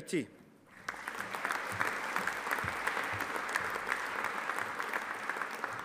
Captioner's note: audience applauding